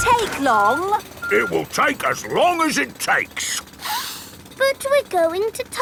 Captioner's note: sniffs